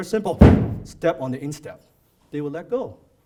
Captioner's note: stomps